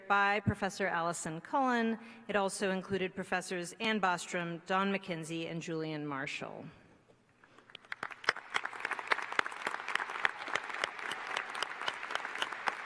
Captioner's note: applause